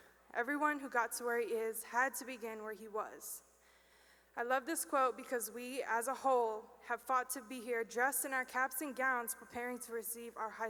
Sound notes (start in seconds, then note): none